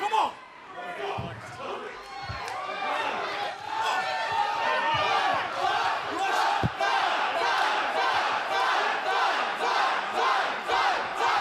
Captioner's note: crowd cheering